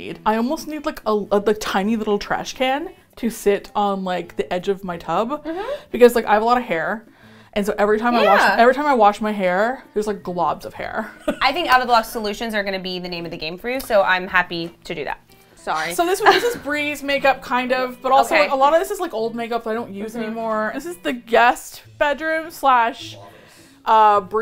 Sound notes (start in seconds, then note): 16.2 laughs